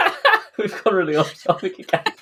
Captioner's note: laughs